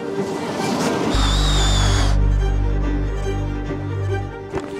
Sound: auger whirring

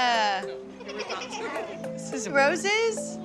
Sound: laughter

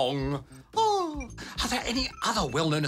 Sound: sighs

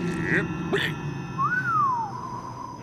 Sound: whistling

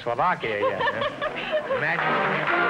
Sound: laughs; triumphant music & applause

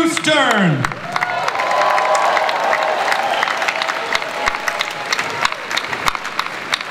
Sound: audience cheering

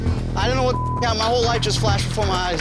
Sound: beep

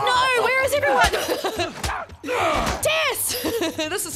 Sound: laugh

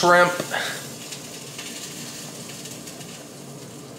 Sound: oil sizzling

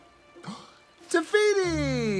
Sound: Mai gasps

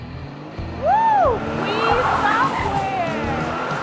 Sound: tires screeching

